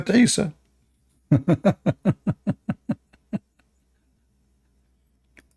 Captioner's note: Ketawa